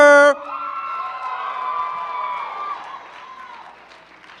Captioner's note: cheering